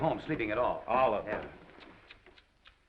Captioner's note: tsking